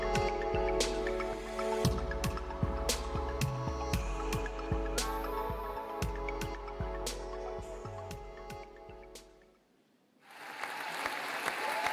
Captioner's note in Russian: аплодисменты